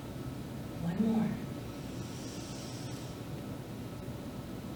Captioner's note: inhales